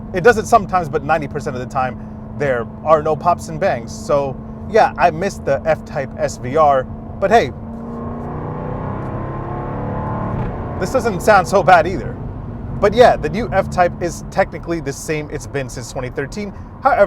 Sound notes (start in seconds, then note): 8.2 engine roars